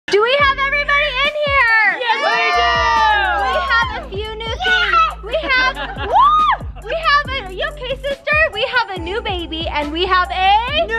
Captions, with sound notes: - Do we have everybody in here? - [Crowd] Yes we do! - We have a few new things. - Yes! - We have woo! We have, you okay sister? We have a new baby, and we have a--